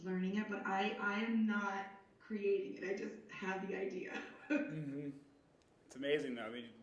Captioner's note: chuckling